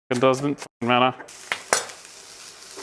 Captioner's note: veggies sizzling